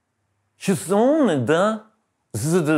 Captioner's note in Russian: с пьяной манерой